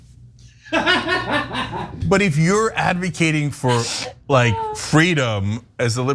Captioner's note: laugh